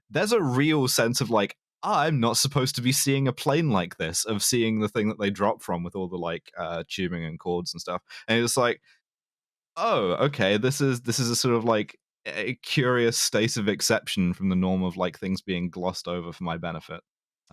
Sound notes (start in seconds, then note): none